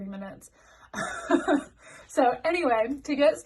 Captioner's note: laughing